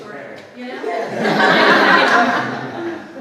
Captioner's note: audience laughs